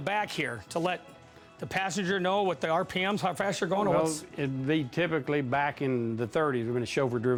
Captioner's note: none